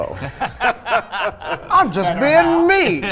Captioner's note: both laughing